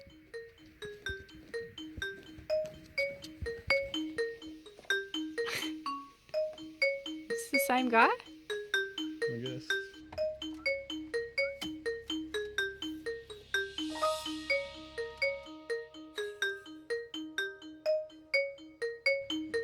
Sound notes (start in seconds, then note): 0.2 fun xylophone music; 5.4 laughs; 10.4 fun music